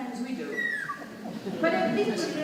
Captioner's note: audience laughing